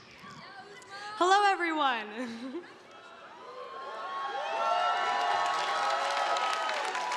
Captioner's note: audience applauding